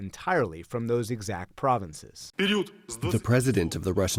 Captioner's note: through translator